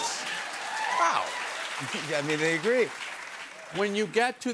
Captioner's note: cheers and applause